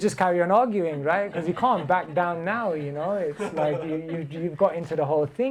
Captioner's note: laughter